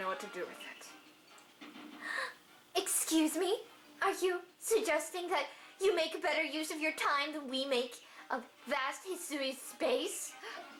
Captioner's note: gasp